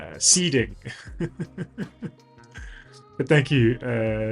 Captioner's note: laughs